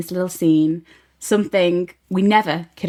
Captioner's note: none